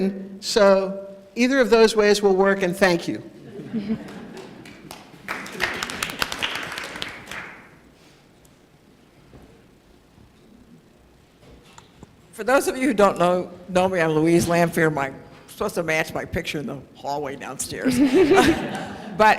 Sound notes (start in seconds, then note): 4.0 applause